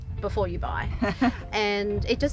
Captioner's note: laughing